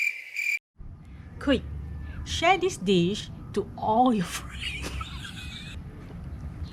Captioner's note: unstoppable laughter